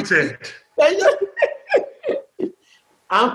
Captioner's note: laughter